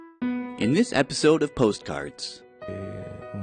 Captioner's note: voiceover